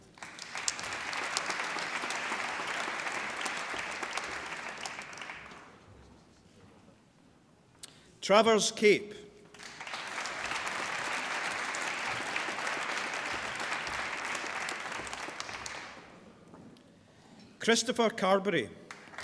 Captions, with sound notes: (APPLAUSE) Travers Cape. (APPLAUSE) Christopher Carberry.